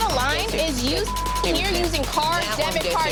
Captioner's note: beeping